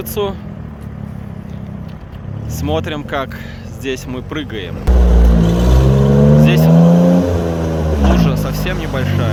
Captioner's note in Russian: Звук рёва мотора